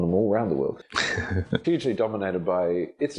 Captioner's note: laughing